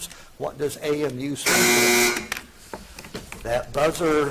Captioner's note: buzzer buzzing